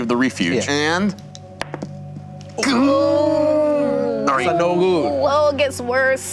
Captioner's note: group shocking exclamations